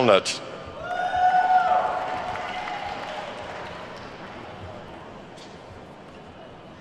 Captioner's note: attendees whooping and clapping